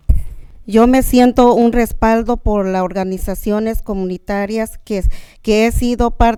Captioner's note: speaking in a foreign language